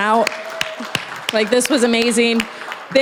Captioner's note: applause